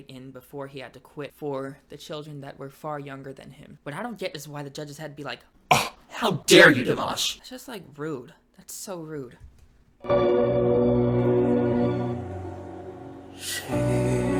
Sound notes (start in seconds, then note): 5.7 gasps